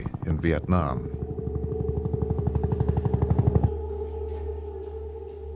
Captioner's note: helicopter chopping